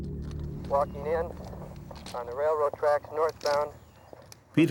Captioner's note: man on radio